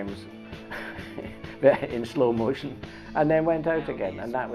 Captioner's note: chuckles